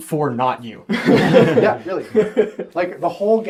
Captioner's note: all laugh